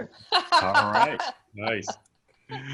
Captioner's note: laughs